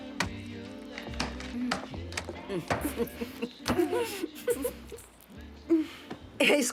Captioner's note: both chuckling